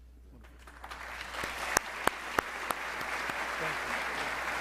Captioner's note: audience applauding